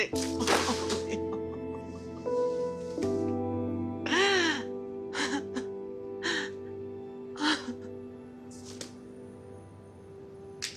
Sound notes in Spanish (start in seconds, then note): 2.0 Sollozos